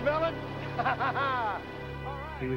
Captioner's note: laughs